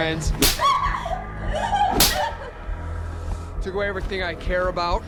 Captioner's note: sobbing